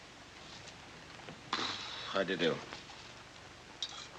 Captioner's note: sputters